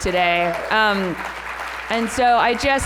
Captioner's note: applause